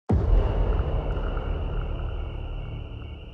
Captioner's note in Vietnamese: Tiếng dế kêu